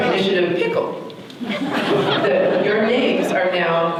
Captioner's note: audience laughter